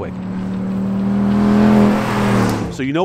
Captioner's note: accelerating